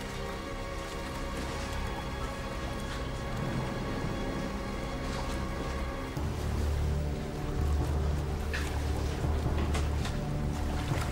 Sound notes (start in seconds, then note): 0.1 brooding music continues; 3.2 water sploshing